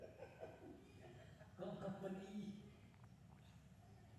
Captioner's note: non-english speech